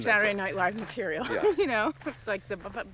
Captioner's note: laughs